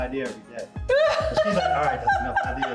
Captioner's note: laughing